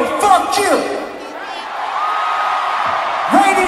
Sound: audience Cheers

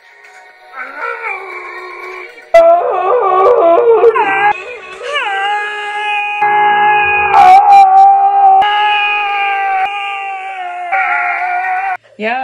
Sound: guttural screams

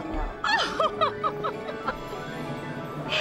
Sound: laughs

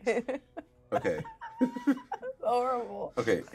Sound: laughs; speaker laughs

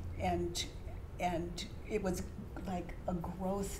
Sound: none

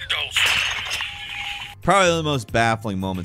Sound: glass shatters

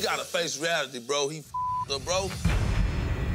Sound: beep

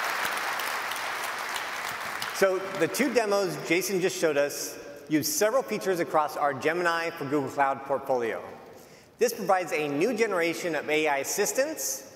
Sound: applause

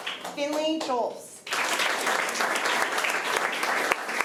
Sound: applause

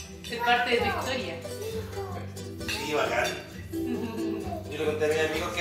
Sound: kid counts to 10 in background

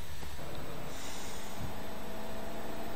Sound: irritated sigh

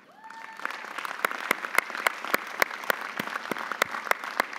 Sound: audience applauding

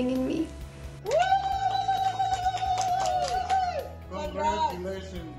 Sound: parents cheering

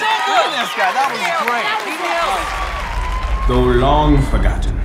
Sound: applause

